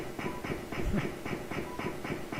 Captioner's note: chuckling